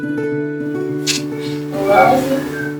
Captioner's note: lips smacking